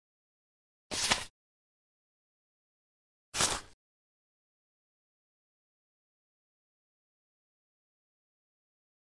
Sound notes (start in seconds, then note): 0.9 paper slides across table